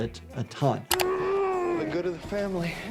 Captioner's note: person groaning